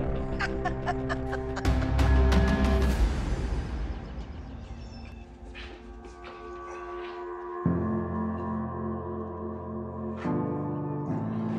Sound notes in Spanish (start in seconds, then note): 0.0 Carcajada